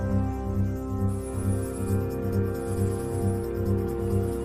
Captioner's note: drill whirring